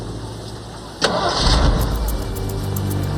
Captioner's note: truck starting